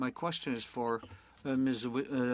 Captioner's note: speaking French